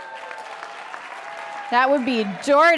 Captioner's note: audience applauding